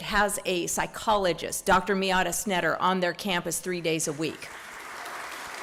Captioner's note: applause